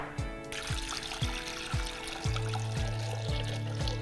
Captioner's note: water pouring